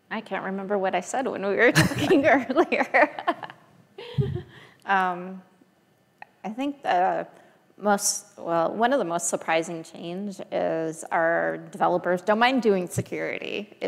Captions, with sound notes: I can't remember what I said when we were talking earlier. (laughs) I think, well, one of the most surprising change is our developers don't mind doing security.